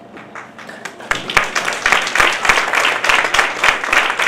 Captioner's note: audience applauds